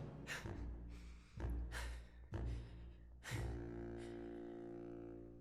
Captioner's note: exhaling